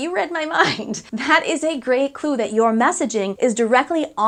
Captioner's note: laughing